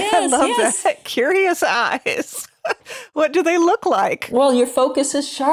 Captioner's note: chuckles